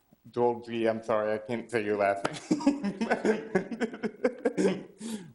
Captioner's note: laughs